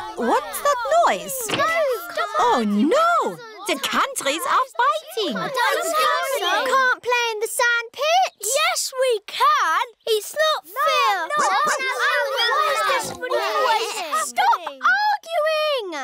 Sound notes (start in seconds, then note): 11.5 barks; 12.9 oinks